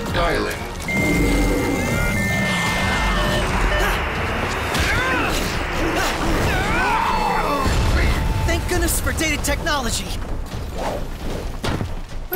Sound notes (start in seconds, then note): 1.2 fax machine dialing; 4.5 fighting impacts and grunting